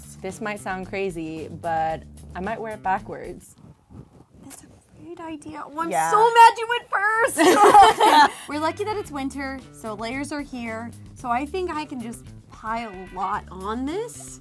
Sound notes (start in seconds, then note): 7.3 giggling